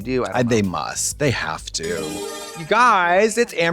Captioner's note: bright chime